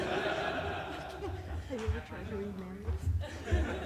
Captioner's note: laughter